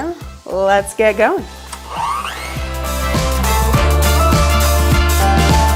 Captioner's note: beater whirring